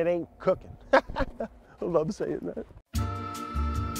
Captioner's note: laughs; light jazz elevator music